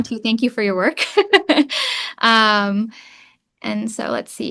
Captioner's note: chuckles